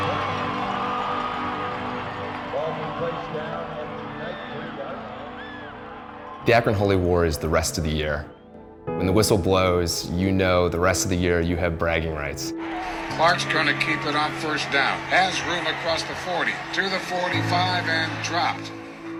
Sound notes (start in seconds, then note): 0.0 somber music; 13.9 radio Announcer; 19.0 somber music